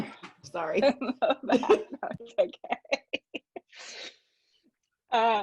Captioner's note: laughs